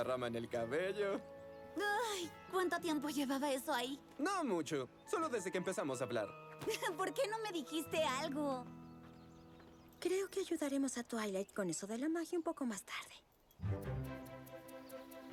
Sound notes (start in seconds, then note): none